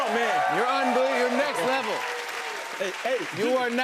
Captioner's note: cheers and applause